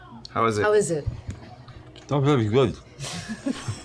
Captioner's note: slurring